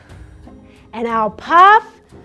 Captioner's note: mouth exhales